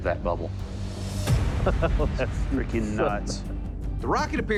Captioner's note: laughter